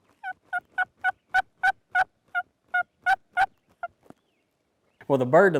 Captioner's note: turkey gobbling